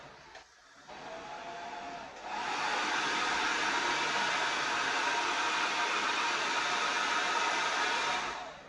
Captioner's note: hair Dryer Blows - Slow & Fast Motor Sounds